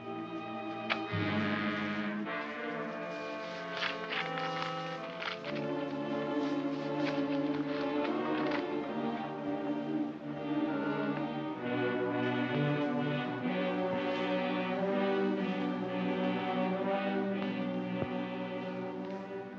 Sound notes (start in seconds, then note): 0.9 tense music; 2.8 envelope rustles; 6.5 ominous music